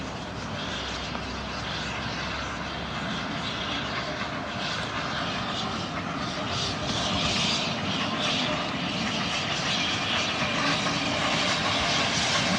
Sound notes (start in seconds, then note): 0.5 train passes